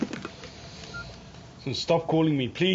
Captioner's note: beeps